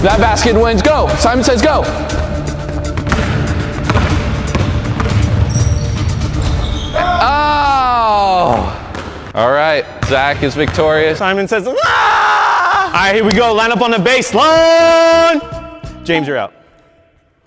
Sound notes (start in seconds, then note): 2.2 intense music; 2.8 basketballs dribbling; 7.2 all yelling